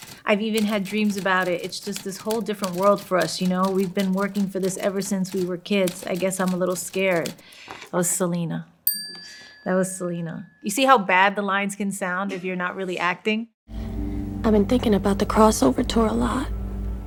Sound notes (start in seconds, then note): 8.8 bell dings